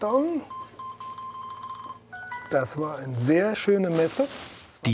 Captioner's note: beeping